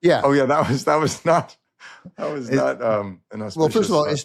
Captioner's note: chuckles